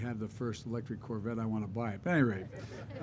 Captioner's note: laughter